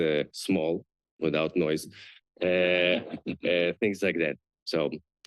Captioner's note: chuckles